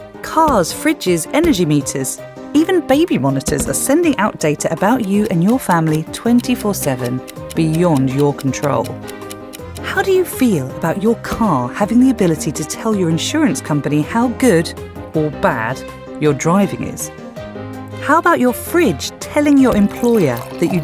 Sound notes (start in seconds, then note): 9.0 clock ticking